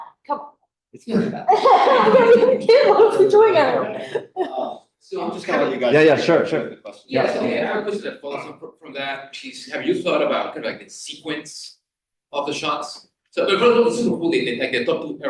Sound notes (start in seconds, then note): 1.2 laughter